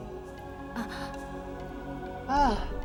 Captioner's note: gasp